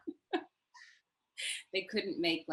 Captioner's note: laughs